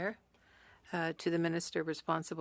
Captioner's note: speaking French